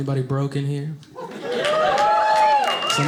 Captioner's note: audience cheering